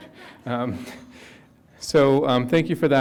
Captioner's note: audience member chuckles